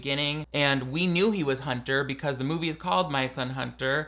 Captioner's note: none